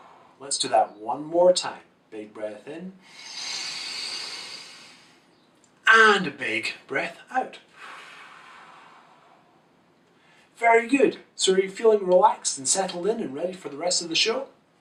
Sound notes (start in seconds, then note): 0.0 exhales; 3.0 inhales; 7.7 exhales